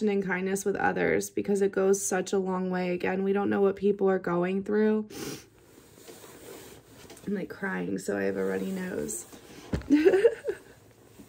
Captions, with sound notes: and kindness with others because it goes such a long way. Again, we don't know what people are going through. [sniffles] I'm like crying so I have a runny nose. [laughing]